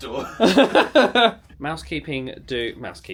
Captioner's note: laughs